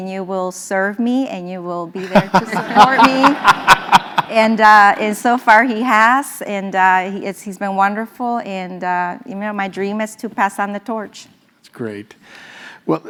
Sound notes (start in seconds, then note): 2.0 laugh